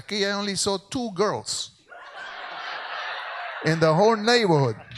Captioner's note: speaks in Spanish; audience laughs